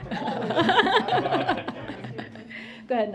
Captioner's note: laughter